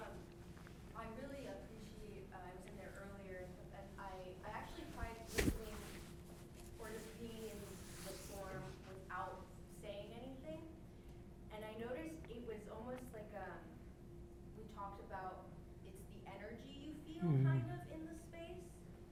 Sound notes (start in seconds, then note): 4.7 mic thumping drowns out speech